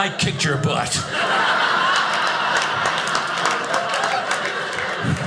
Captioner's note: audience laughing